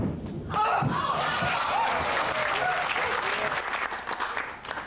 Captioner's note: applause